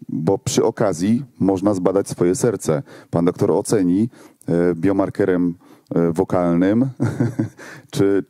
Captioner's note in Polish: śmiech